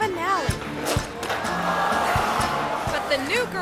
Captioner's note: audience gasps